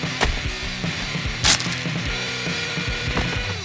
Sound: thump

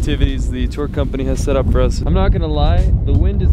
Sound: wind rumbling

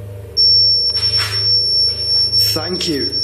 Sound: loud beeping

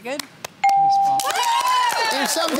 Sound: cheering

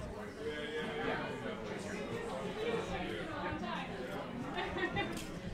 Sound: laughing and chattering

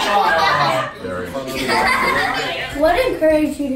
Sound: laughing

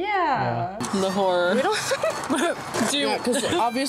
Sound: laughter

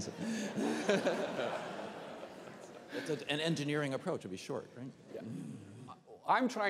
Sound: laughter

